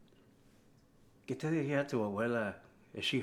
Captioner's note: Spanish